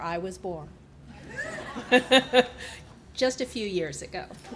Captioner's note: laughing